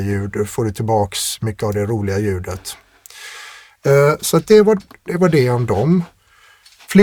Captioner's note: scoffs